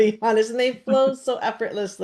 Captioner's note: laughs